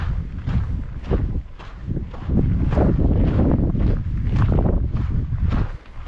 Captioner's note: wind blowing